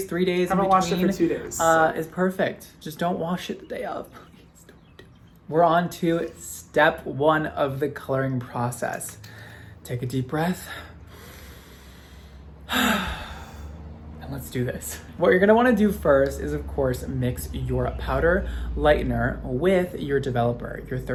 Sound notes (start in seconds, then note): 10.7 breathes in deeply; 12.7 breathes out sharply